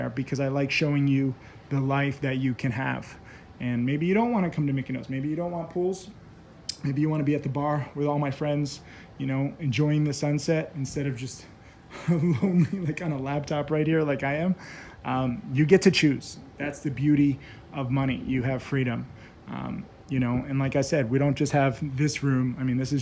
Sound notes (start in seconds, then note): 15.0 laughs